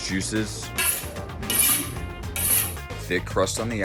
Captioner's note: sharpening knife